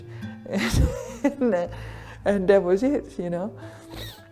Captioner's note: chuckling